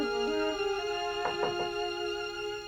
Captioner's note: knocks